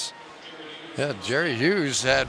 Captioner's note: pa announcement